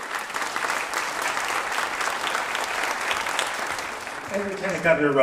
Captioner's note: applause